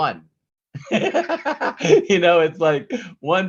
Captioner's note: laughs